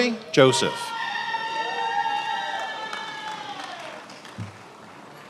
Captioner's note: attendees applauding